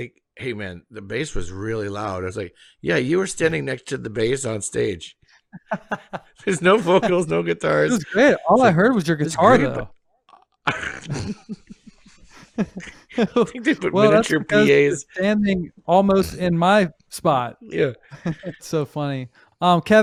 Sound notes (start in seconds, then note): 5.6 laughs; 10.6 both laughing